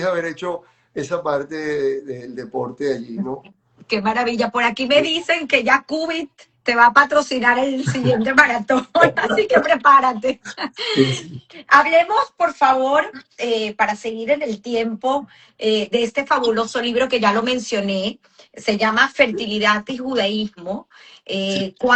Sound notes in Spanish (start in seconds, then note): 7.8 risas